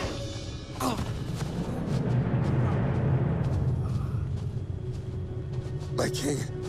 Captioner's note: dramatic music; Perimedes groans